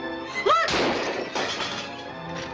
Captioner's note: gun fires